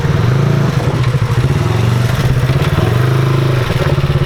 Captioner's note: ATV engine roaring